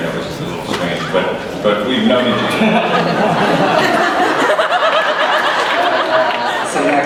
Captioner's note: someone in audience “Ow” they start laughin